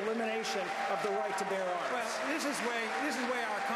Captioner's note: applause